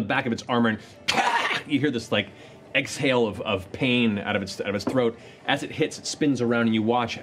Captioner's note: grunts